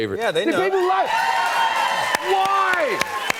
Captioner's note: cheers and applause